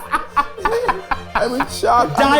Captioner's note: group laughing